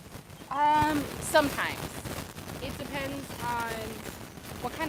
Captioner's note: wind whistling